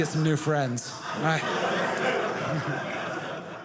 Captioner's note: audience laughing